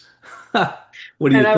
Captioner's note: chuckling